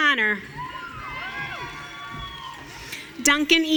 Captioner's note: audience cheering